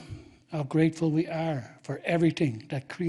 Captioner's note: speaking Indigenous language